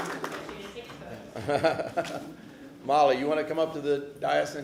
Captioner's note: applause